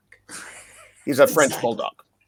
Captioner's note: laughing